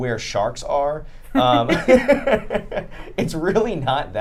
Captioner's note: group laughing